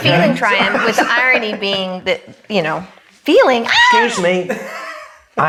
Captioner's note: screams